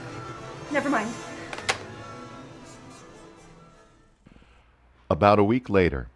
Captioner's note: phone receiver clatters